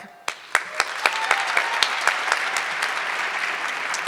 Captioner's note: audience cheering